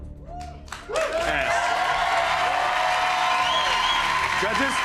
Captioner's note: cheers and applause